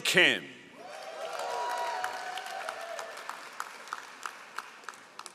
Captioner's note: all applauding